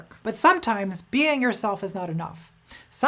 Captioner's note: none